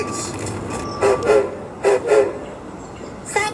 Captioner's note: hiro whistles